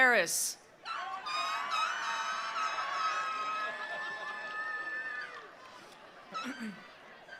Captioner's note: attendees cheering; attendees applauding